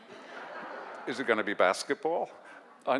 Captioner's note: audience laugh